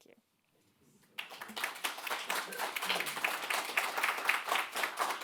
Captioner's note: audience applauding